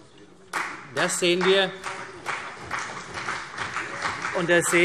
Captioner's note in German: Beifall CDU